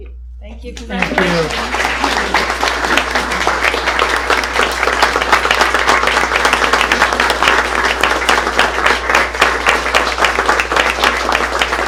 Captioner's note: applause